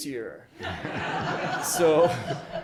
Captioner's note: audience laughs